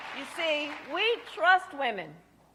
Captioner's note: applause